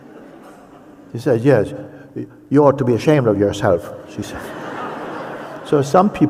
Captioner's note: laughter